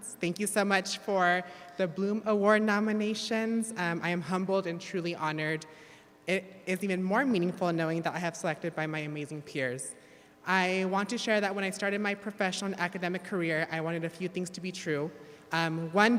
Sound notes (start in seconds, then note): none